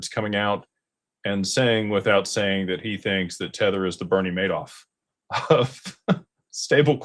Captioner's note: laughter